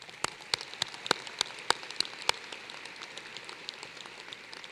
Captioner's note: applause